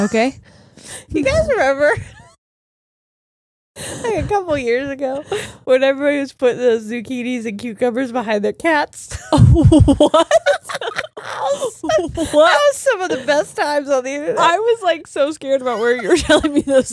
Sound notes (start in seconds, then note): 3.4 laughs; 9.3 cackles